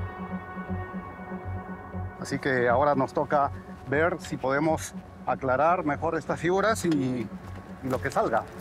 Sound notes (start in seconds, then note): 2.5 man speaking in foreign language